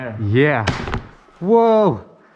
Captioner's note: snap!